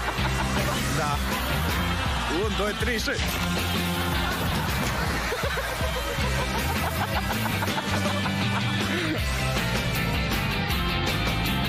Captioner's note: laughing; speaking in foreign language